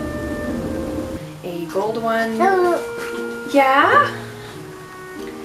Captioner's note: baby noises